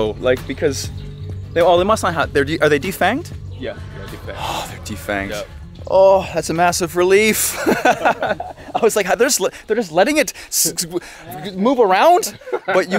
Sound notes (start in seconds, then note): 7.3 laugh